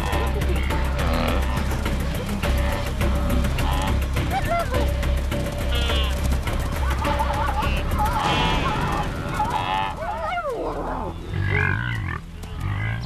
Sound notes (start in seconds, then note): 2.9 wildebeest mooing